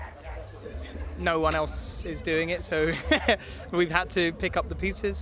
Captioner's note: laughs